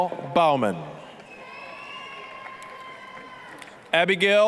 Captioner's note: applause, cheering